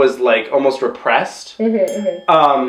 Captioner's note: muffled sounds of agreement